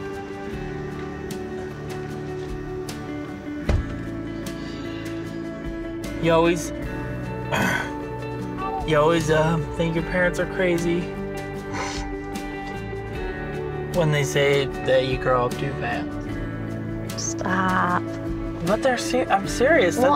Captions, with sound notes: (soft guitar music) - You always (clears throat) You always think your parents are crazy when they say that you grow up too fast. - Stop. - But they're, I'm serious.